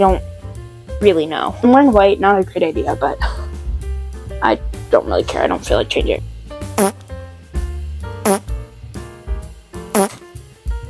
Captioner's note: fart x3